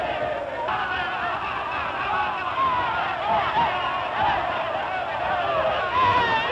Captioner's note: shouting